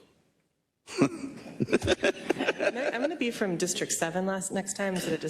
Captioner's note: laugh